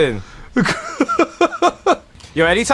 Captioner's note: laughs